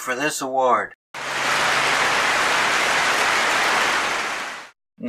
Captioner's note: clapping